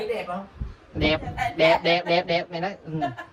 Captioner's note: laugh